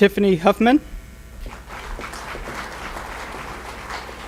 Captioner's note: applause